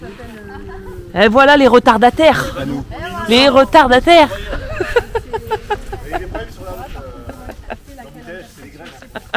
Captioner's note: laughs